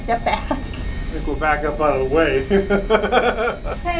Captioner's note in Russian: смеётся